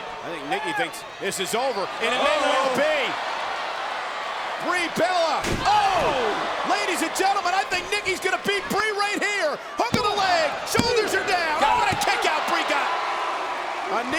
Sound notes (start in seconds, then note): 0.0 spectators applauding; 3.4 spectators cheering